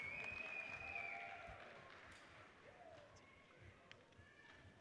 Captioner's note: audience cheers and applauds